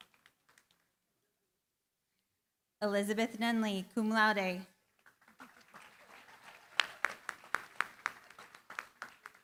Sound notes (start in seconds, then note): 5.0 applause